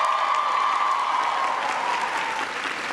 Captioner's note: applause